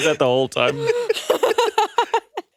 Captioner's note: everyone laughs